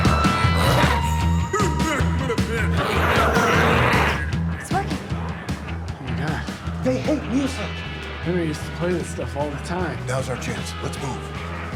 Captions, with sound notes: (glowzies growling) - It's working. - Oh my God. - They hate music. - Henry used to play this stuff all the time. - Now's our chance. Let's move.